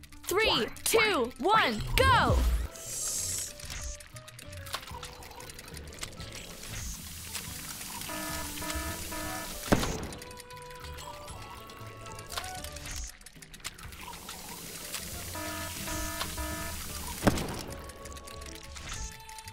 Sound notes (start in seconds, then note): 4.8 frosting squelching; 7.8 warning sirens; 9.6 popping; 15.0 warning sirens; 17.2 popping